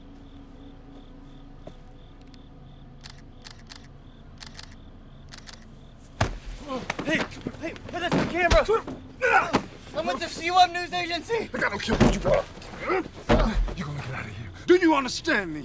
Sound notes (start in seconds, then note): 2.5 camera shutter clicking